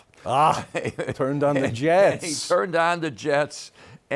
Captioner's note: laughs